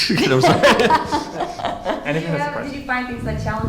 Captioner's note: panelists laughing